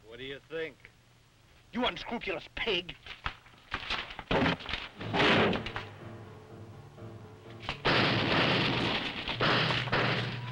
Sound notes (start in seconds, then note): 4.5 door crashes; 7.7 guns firing